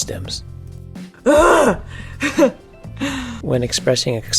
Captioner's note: laughs